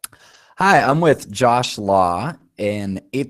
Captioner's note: voiceover